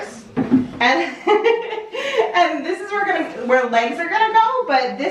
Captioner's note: laughs